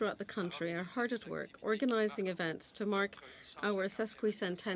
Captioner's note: speaking french